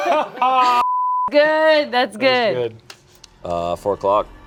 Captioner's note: beep